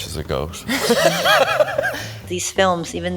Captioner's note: both laughing